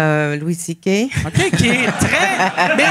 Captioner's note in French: rires